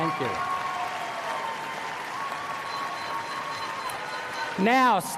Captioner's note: applause